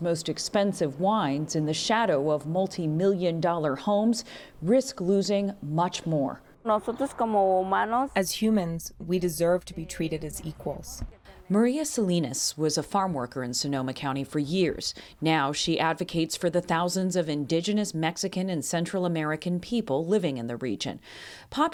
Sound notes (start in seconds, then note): 8.2 through translator